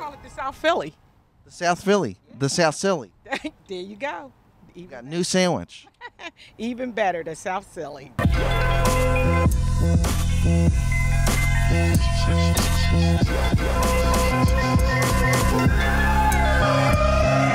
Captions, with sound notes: Let's call it the South Philly. The South Philly. The South Silly. *laughs* There you go! We've got a new sandwich. *laughs* Even better, the South Silly.